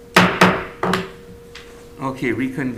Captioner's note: gavel bangs twice